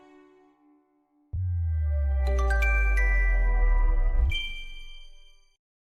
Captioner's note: chime